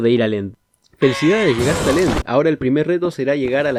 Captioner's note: oof.mp3